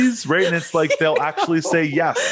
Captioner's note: laughing; chuckles